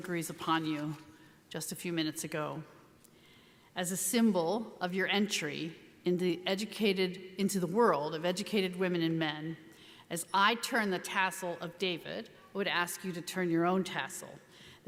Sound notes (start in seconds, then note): none